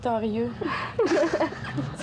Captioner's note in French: rires